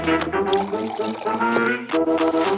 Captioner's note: liquid pouring